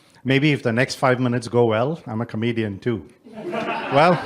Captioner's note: background laughter